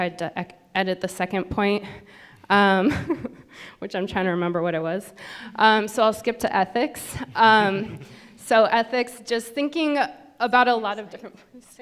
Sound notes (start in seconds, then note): 3.1 laughs